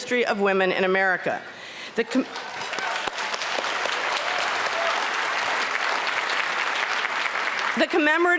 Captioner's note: applause